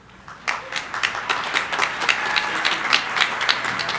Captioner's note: crowd applauding